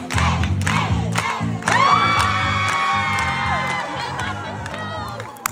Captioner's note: kids cheering and applauding